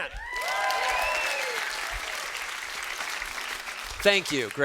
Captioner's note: students cheering